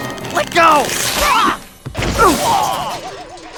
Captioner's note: grunts; pained grunt